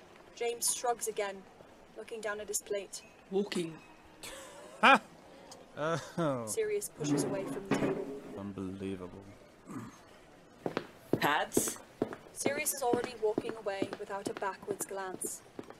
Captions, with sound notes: James shrugs again, looking down at his plate. “Walking.” [Sirius laughs coldly] Sirius pushes away from the table [chair moving] “unbelievable” [footsteps] “Pads?” Sirius is already walking away, without a backwards glance.